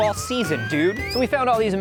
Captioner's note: robot whistles